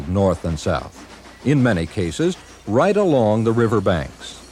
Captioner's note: train chugging